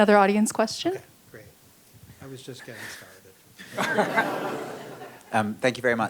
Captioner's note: laughter